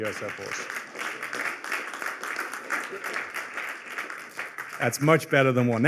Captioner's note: applause